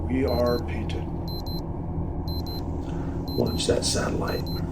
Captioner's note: device beeping